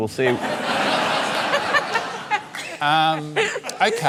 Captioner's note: laughter